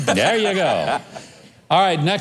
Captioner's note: laughs